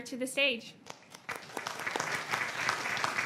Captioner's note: applause